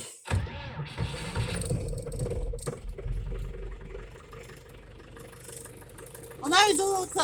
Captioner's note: motor sputters, then starts